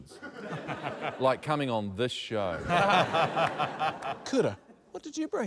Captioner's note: laughter